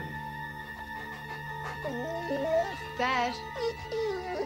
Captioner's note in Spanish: perro lloriqueando